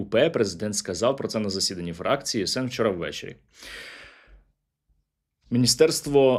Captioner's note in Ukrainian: сопіння